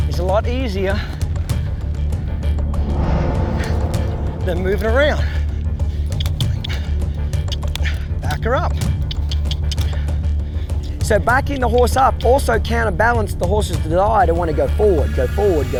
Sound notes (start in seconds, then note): 8.8 clicking